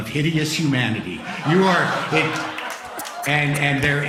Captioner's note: laughter